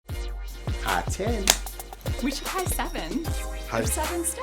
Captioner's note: audible clapping sound